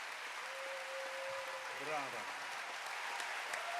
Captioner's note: applause